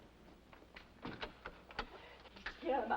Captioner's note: scurrying footsteps; door opens